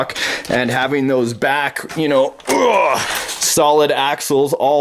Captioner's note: grunts